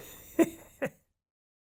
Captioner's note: laughing